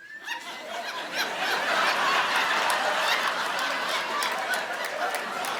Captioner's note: audience laughing